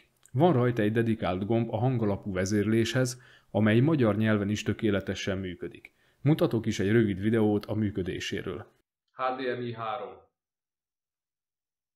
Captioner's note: demo in Hungarian language only